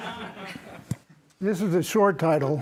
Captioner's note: laughter